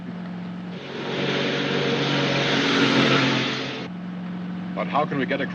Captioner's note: car rumbles past